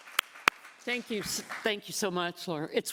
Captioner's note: applause